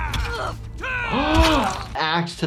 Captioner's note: man yells; woman grunts; weapon hits